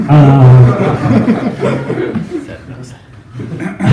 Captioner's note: laughs